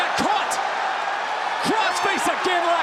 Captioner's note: audience cheers